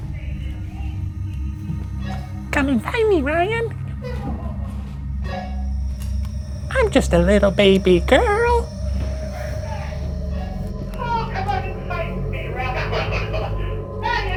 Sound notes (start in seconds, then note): 0.5 shouting over radio; 4.3 giggling over radio; 6.7 radio beeps; 9.5 shouting over radio; 13.5 laughing